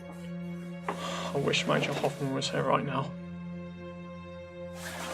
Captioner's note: sighing